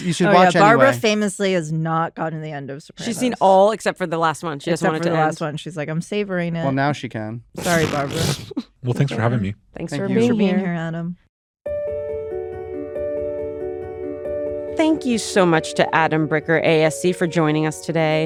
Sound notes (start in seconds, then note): 8.2 laughs; 11.7 gentle outro music plays